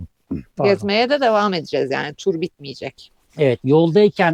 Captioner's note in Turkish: boğazını temizler